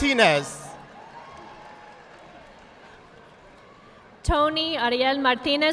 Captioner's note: audience applauding